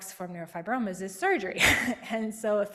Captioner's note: chuckles